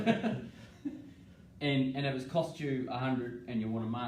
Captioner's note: laughing